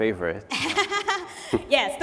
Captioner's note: laughter